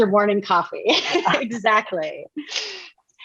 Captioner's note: laughs